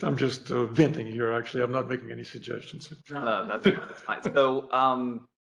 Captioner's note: laughter